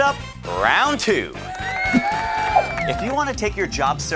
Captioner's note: audience cheering